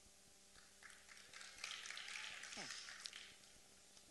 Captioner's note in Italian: Applausi